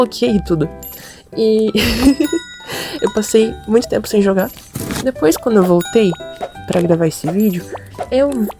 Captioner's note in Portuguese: risos